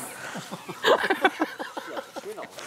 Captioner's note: Sie lachen